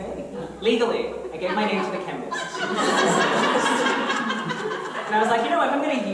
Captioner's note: audience laughter